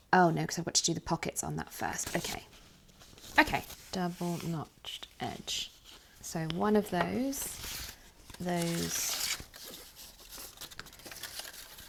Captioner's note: rustling